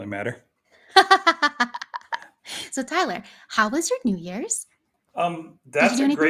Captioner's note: laughs